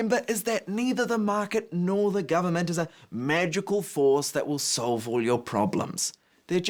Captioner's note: none